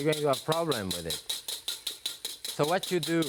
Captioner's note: whisk tapping